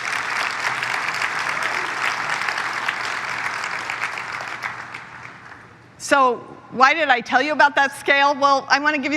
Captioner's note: applause